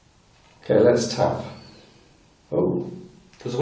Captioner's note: whistling